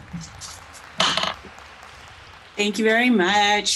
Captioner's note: applause